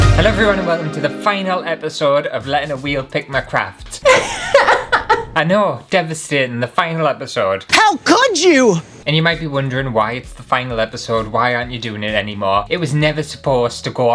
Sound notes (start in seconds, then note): 4.1 crying